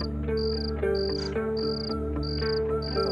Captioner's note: Scoffs